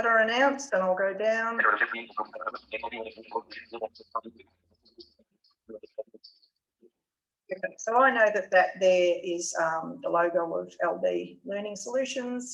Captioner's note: JAWS screen reader speaks quickly